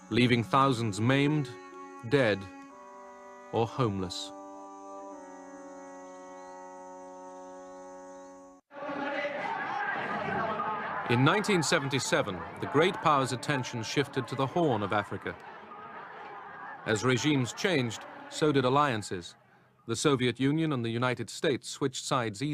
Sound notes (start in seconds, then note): 8.7 chanting